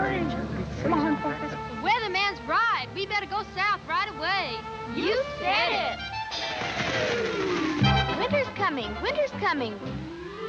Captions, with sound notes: - The weather man's right. We better go South right away. - [Crowd] You said it! (anticipatory music) - Winter's coming! Winter's coming!